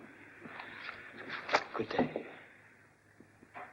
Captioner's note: paper rustles